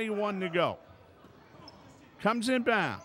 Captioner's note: yelling